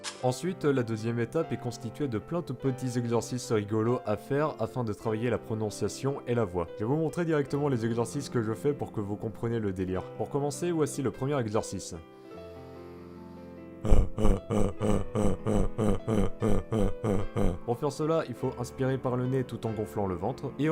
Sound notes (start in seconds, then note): 12.2 nasal Inhale; 13.8 bear sound